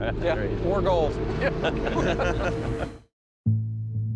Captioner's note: laughter